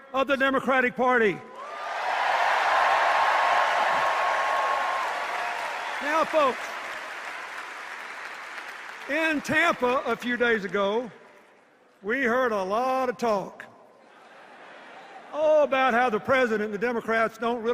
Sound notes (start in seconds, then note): 5.2 applause and cheers; 14.5 laughter